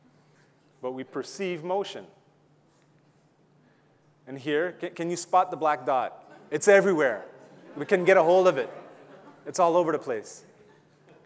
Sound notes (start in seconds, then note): 6.2 audience laughing